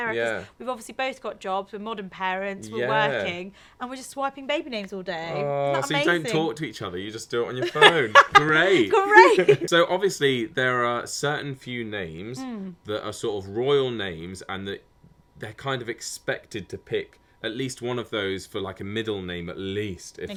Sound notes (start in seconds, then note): 7.6 laughing